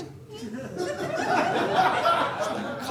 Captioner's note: audience laughing